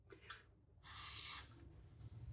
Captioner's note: high-pitched squeak